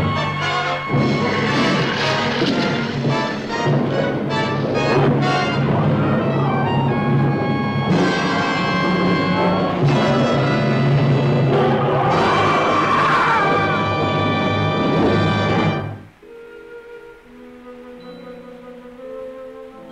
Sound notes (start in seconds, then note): 11.5 creature roaring; 15.3 soft instrumental music